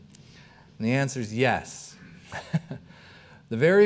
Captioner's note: chuckling